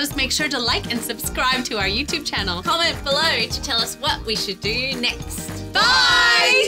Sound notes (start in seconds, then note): 5.7 group In Unison